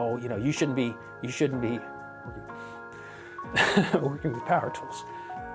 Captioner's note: chuckles